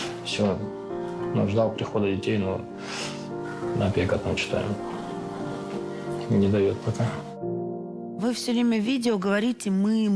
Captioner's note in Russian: фыркает